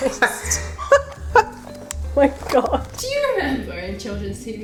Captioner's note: distressed laughter